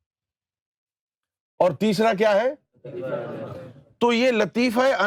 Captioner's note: audience replies